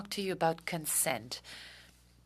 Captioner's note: speaking french